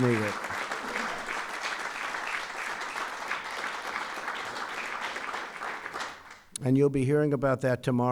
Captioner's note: applause